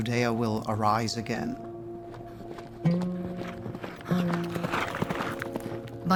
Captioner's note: hoofbeats